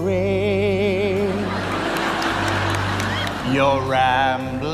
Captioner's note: audience laughing